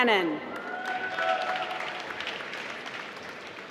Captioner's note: applause